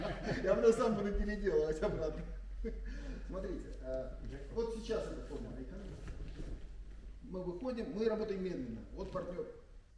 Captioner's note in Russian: смех